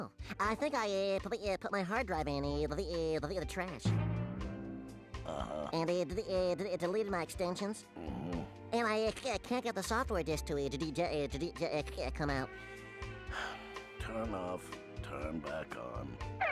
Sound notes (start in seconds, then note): 13.2 sighing